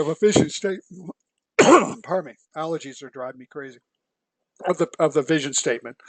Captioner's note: cough